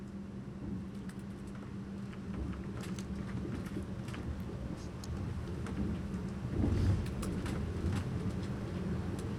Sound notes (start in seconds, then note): 2.3 train noises fade in